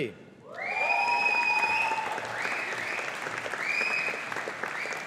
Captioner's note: audience applauding